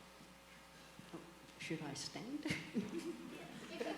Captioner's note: laughs